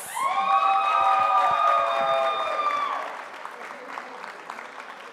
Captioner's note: audience applauding